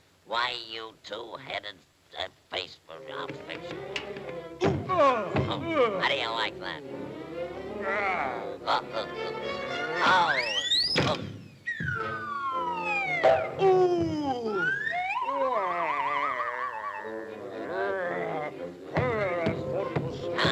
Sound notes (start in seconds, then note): 4.8 creature grunting; 4.8 Popeye thudding; 7.6 creature grunts; 10.3 Popeye whooshes; 10.4 tree whistles and thuds; 14.4 slide whistle warbling; 15.3 creature grunting; 18.9 footsteps thudding